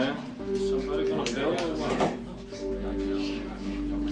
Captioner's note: chatterin in background